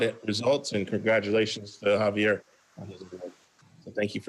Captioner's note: faintly speaking